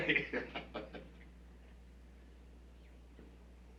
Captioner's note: laughs